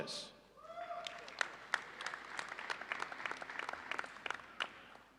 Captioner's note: audience applauding